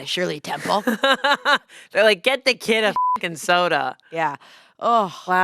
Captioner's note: laughs